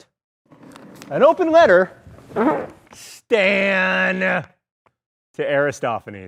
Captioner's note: the whoopee cushion sounds